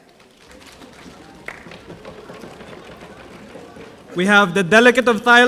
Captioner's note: audience drumming